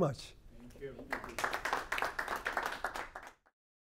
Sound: applause

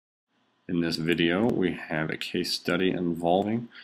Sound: voiceover

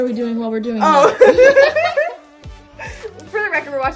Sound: laughter

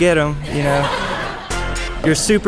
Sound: laughing

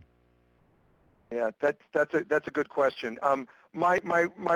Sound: voiceover

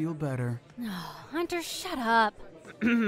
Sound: disgusted grunt

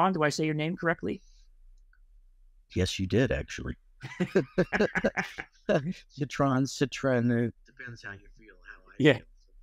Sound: both laugh

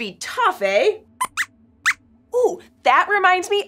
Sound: squeaks squeaks

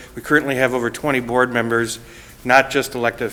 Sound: none

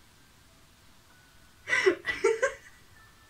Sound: laughs

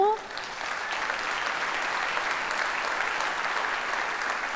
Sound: audience applauds

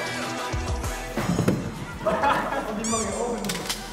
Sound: thump

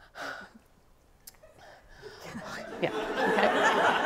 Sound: pants

